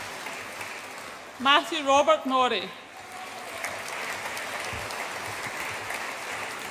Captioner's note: audience applauds